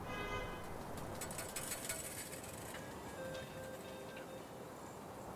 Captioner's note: slot machines dings